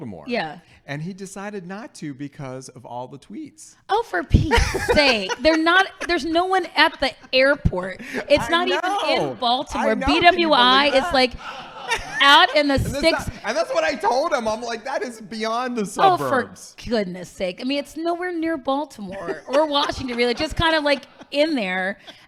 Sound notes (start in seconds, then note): 4.8 laughing